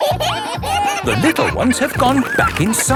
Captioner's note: kids giggling